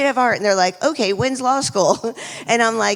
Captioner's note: laughs